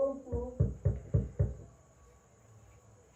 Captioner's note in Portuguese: batida na porta